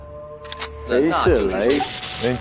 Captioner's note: electroshock